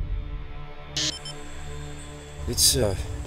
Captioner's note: beep